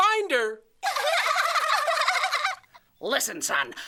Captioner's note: giggling